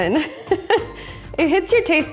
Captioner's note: laughs